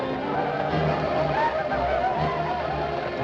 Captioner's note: whooping